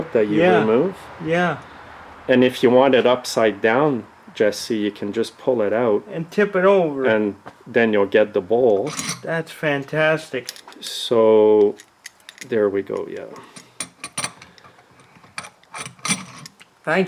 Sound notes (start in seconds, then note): 8.8 carburetor sliding; 13.7 carburetor clinking